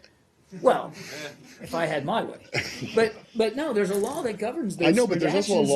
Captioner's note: laughter